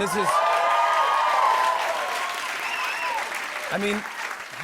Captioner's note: cheers and applause